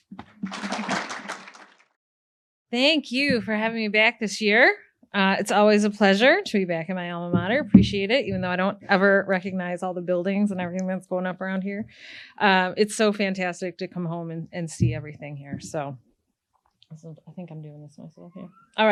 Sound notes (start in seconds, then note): 0.0 attendees applaud; 7.2 speaks faintly